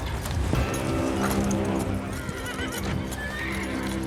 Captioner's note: horses neighing